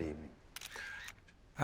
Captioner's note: camera click sound